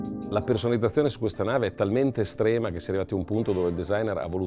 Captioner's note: speaking Italian